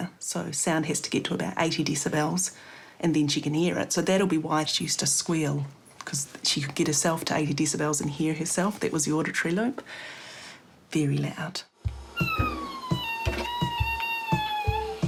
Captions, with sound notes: So sound has to get to about 80dB, and then she can hear it. So that'll be why she used to squeal, cos she could get herself to 80dB and hear herself. That was the auditory loop. (INHALES DEEPLY) Very loud. (SQUEALS)